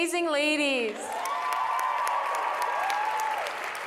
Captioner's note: applause